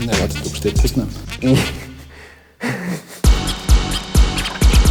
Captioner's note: laughing